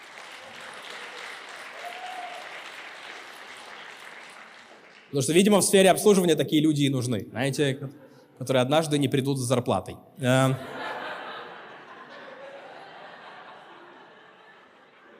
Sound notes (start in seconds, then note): 0.0 applause